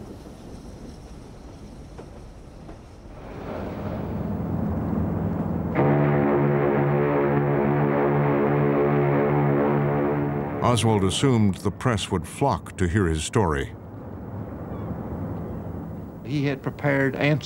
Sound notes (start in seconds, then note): 5.9 ship's horn blaring